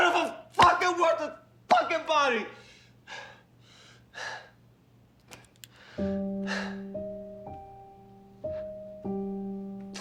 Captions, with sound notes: of a fucking worthless fucking body! (Rico breathing heavily) (somber music)